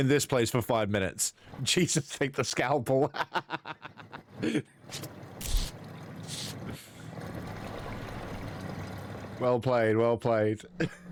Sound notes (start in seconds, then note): 3.2 laughs; 5.4 crunching